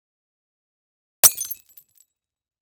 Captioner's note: glass breaking